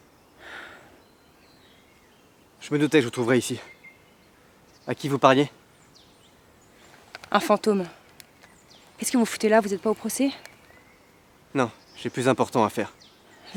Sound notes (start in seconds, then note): none